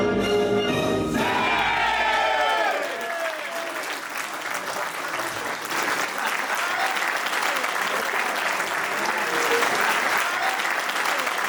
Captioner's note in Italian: applauso